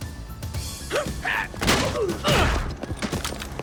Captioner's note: guards gasp; blows thudding; guards grunt